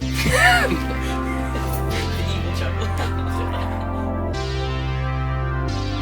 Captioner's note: group laughing; synth music